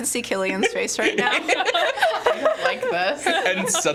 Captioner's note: laughing